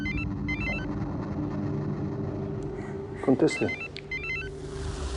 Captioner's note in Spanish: Suena el celular